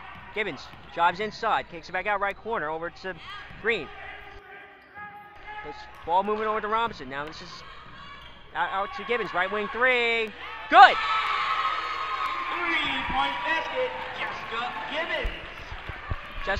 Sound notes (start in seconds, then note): 11.3 crowd cheers